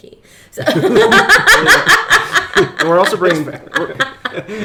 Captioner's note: laughing